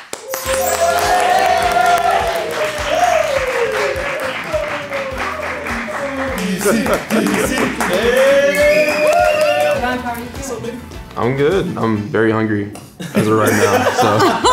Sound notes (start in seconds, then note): 0.3 group clapping; 6.7 chanting